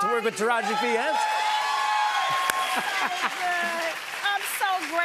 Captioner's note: cheers and applause